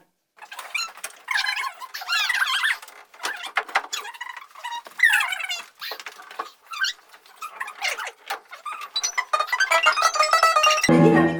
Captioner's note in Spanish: Sonidos a cámara rápida